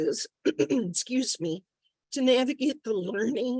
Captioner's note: clearing throat